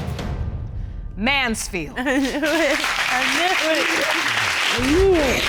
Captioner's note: laughs